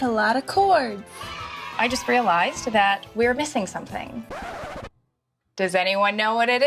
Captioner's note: record scratch